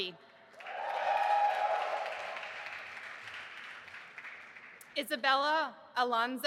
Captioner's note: audience applauding and cheering